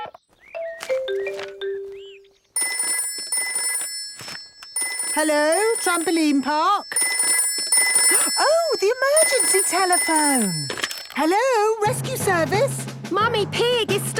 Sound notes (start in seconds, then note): 0.3 phone ringing; 5.1 phone ringing